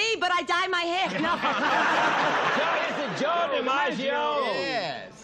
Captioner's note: laughter